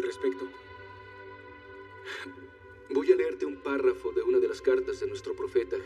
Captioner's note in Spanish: Ríe